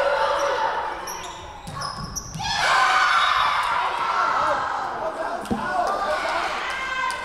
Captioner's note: whistle blowing; Lions cheering